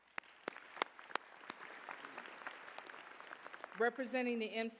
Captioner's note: applause